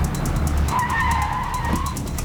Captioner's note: tires squeal